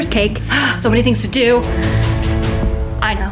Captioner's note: exhales; dramatic music